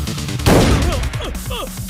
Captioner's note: Gunshot